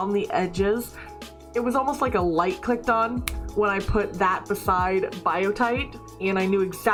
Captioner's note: snap